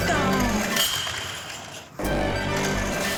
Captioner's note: crash